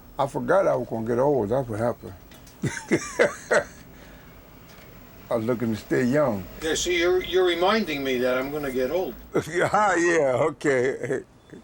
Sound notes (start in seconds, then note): 2.6 chuckling